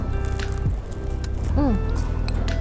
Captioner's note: crispy sound